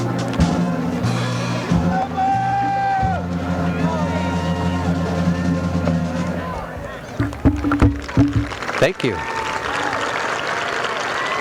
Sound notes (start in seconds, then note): 7.8 applause; 9.5 applause continues